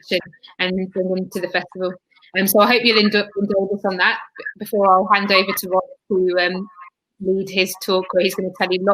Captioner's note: erm